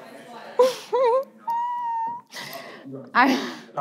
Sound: giggling

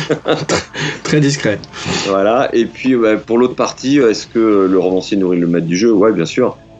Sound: laughs

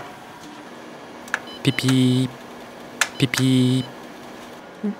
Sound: error bleeps

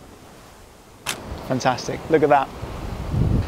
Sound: camera shutter

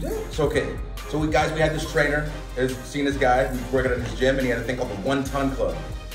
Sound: none

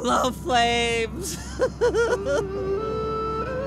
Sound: sobbing

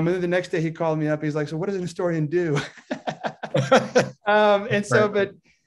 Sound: laughs

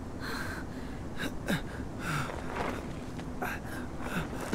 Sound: panting

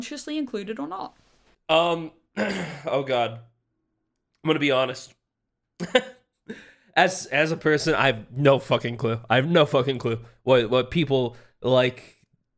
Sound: laughs

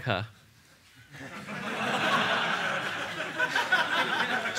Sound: laughter

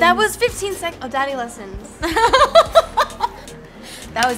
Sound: laughter

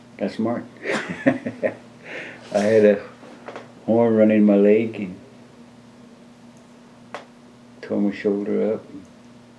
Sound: laughs

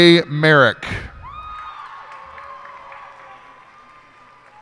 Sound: cheers and applause

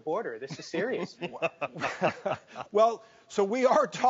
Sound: hosts laugh

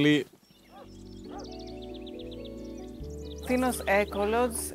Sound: dogs barking and birds chirping

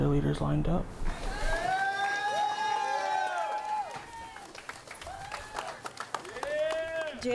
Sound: cheering

